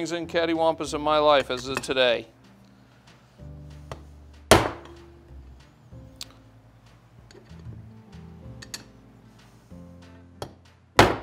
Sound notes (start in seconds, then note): 4.5 hammer pounding